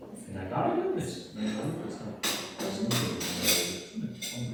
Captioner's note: indistinct chatter